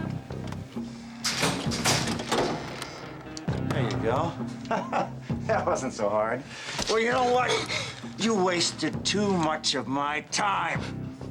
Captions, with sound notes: (vault clanks) - There you go, that wasn't so hard. Well, you know what? You wasted too much of my time!